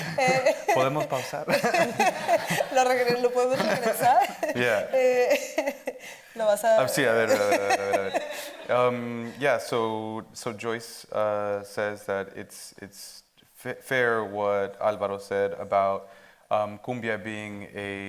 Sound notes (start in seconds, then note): 0.0 speaking Spanish; 0.0 audience laughing; 0.3 speaking Spanish; 2.9 speaking Spanish; 7.4 audience laughing